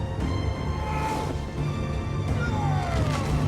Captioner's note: dramatic music; dwarf screams